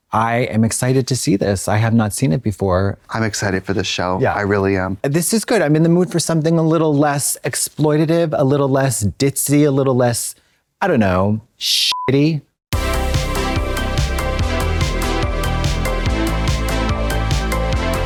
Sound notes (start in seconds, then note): 11.8 beep; 12.7 gay dance music